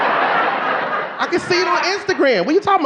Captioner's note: audience laughing